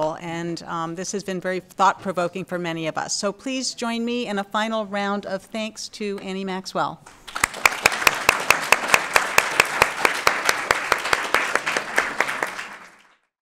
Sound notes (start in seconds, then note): 7.2 audience Applause